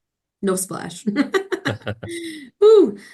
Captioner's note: laughs